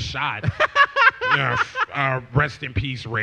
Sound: laughs

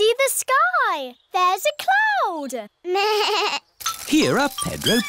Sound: bleats

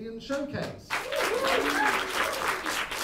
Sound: applause

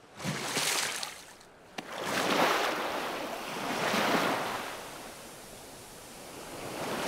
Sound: water sloshes; waves hiss

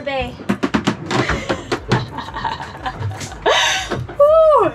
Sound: boat banging

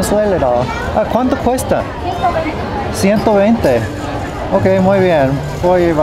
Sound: speaking foreign language

